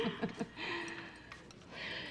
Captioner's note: sighs